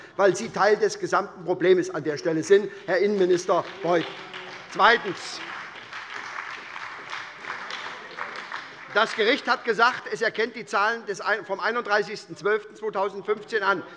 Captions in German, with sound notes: weil Sie an der Stelle ein Teil des Problems sind, Herr Innenminister Beuth. [Beifall bei der SPD] Zweitens. Das Gericht hat gesagt, es erkenne die Zahlen vom 31.12.2015 an.